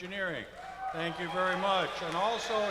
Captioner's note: cheers and applause